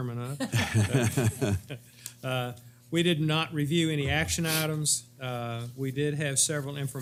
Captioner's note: laugh